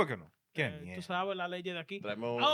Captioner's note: speaking In Foreign Language